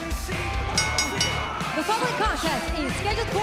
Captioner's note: bell ringing